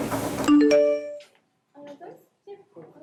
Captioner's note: notification sound